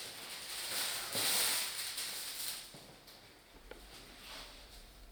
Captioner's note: material crinkling